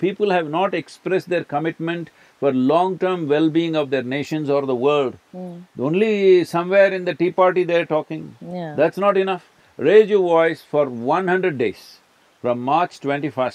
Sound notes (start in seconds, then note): none